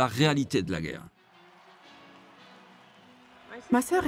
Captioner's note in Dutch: publiek juicht